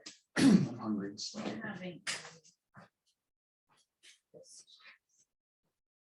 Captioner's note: group chattering indistinctly